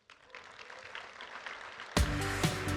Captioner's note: audience applauding; upbeat music